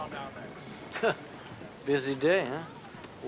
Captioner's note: wry laugh